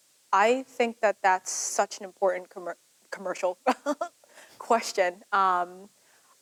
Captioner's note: laughs